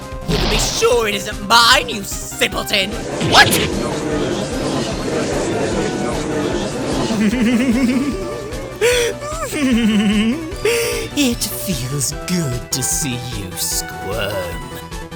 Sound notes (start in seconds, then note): 3.2 gallery chattering